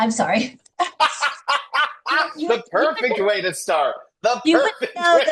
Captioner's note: laughs